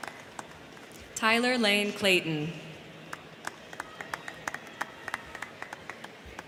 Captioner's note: crowd cheering